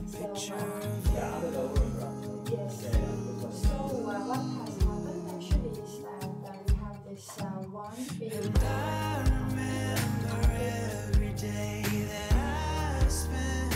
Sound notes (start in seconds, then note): 10.0 laughs